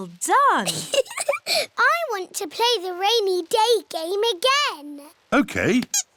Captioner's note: laughs